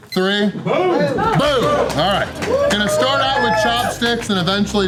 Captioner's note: crowd